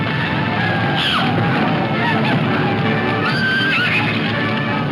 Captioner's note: Lucy screams